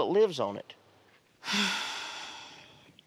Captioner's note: sighs